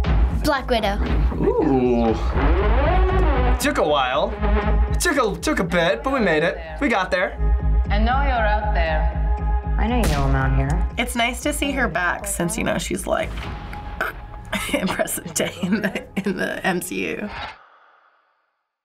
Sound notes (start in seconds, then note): 13.8 croaks